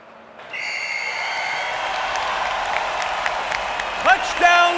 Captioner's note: whistle; cheers & applause